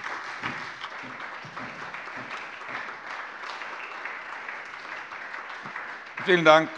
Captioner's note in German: Beifall Freie Demokraten und SPD